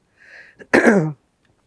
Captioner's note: clears throat